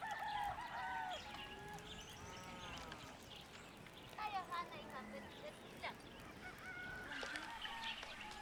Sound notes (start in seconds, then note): 0.3 birds chirping; 3.1 indistinct chatter; 6.8 chickens clucking